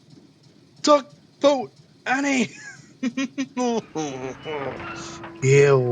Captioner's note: laughs